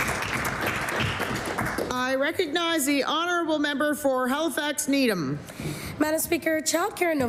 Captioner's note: applause